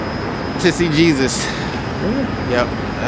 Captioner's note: sighs deeply